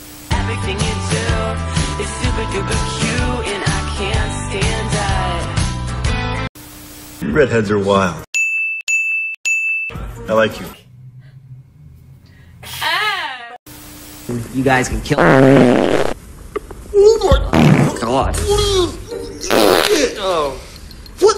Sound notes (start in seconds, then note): 15.2 gross fart sounds; 17.4 gross fart sound